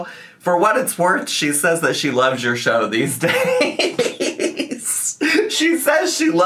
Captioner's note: laughs